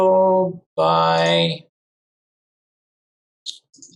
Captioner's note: mouse clicking